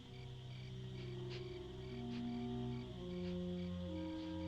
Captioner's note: sniffing Continues